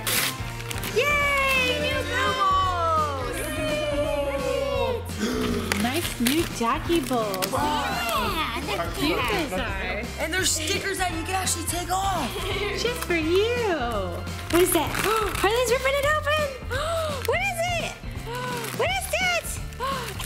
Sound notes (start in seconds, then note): 18.0 gasping